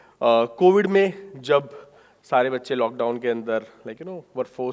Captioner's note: speaking in foreign language